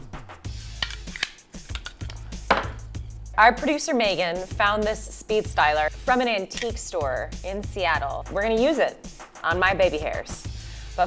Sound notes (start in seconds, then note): 0.9 clicking